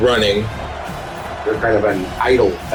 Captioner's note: crowd Noises